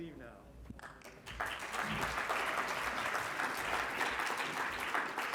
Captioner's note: congregation clapping